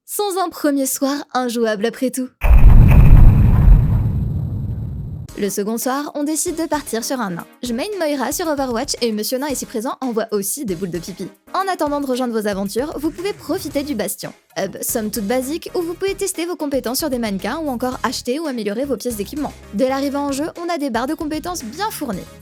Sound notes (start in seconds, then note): 2.4 dramatic sound effects